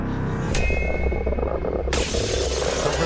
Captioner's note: creature roaring; glass breaking